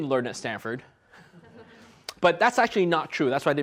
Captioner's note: audience laughs